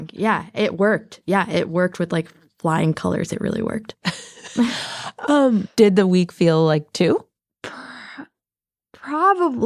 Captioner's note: laughs